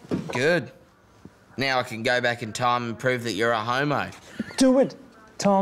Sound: laughs

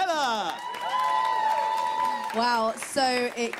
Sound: cheers

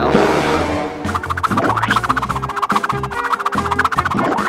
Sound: pen swooshing

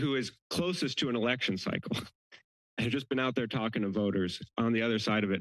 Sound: giggles

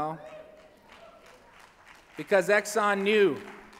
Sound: applause

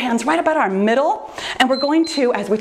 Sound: timer beeps

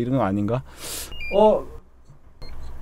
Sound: beep-bi-beep

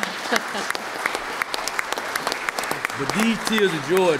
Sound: applause

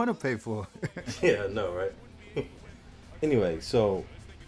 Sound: laughs

